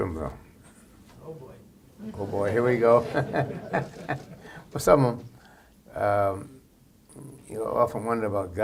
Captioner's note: laughter